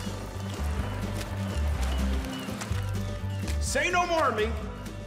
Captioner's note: squishing noise